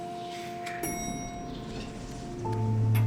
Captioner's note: elevator dings; eerie music